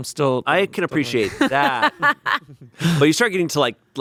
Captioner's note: laughing